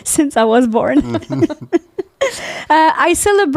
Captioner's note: laughing